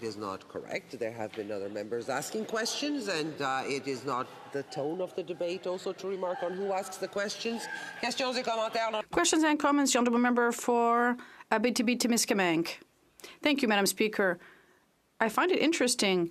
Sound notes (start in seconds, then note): 13.0 speaking French